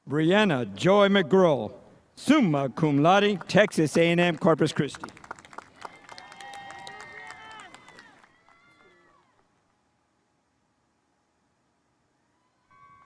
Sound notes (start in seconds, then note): 5.2 spectators applauding